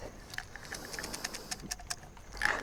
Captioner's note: pill bottle shaking